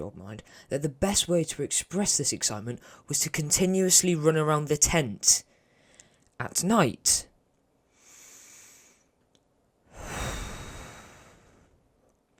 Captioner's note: deep inhale and exhale